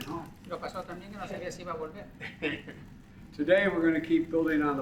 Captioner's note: laughs